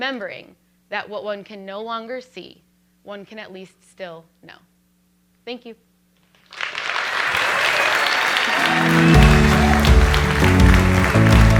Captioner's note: applause